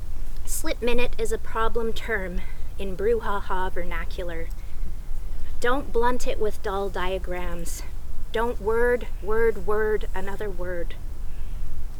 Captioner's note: bird screeches